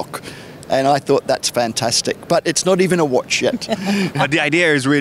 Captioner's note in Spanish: Risas